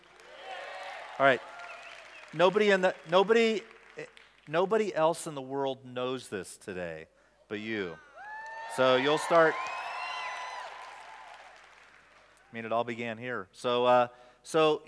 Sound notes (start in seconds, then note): 0.0 applause/Cheers; 9.9 cheers